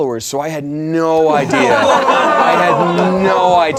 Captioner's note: laughing